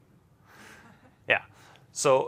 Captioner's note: laughs